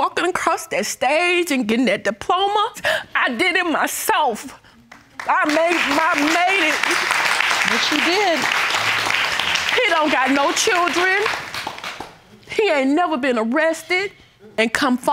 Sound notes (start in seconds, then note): 4.9 applause